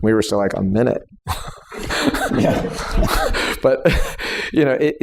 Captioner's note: laughter